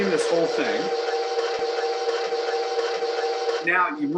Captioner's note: mixer whirring